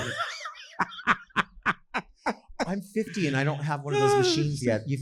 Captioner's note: laughing